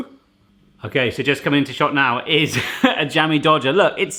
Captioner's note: laughs